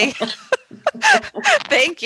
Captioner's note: laughs